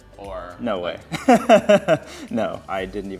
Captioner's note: laughs